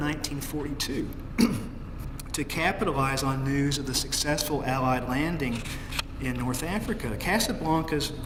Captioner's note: cough